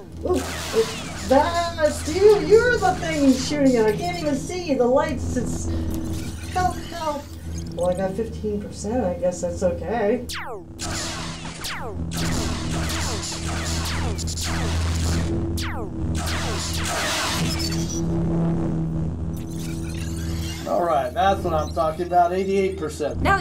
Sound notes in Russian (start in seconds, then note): 9.9 выстрел лазера; 10.8 световой меч парирует лазер